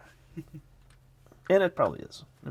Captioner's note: person chuckles